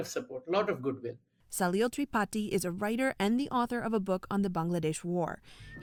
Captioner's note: voice-over